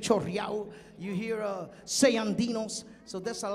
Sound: speaking in Spanish

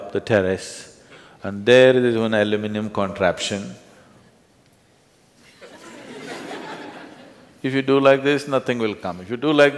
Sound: laughter

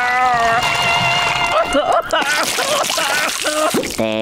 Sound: crying; sobbing

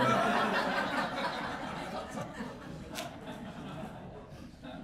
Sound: laughter

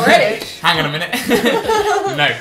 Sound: laughter

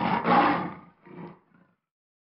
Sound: mountain Lion growl

